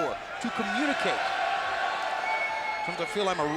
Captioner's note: fans cheering